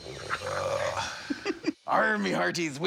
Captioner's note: imitating pirate